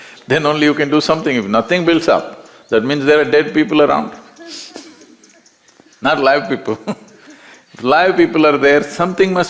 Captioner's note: laughter